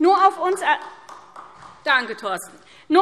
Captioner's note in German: Beifall